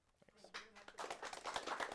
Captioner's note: crowd applauding